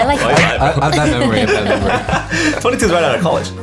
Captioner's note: laughter